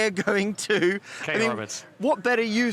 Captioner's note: laughs